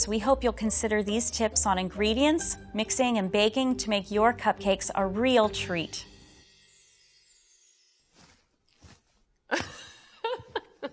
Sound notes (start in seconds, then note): 9.5 laughing